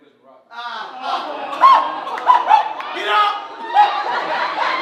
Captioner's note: audience awing